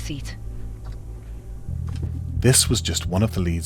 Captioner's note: clock ticking